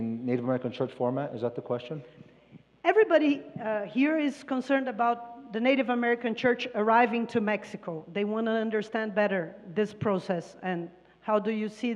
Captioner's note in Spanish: Expositor habla en inglés